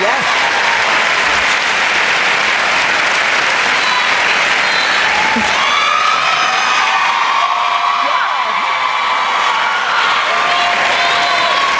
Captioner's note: cheering and Applause